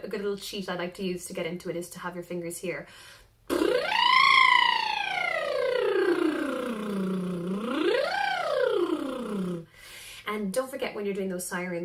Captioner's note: trilling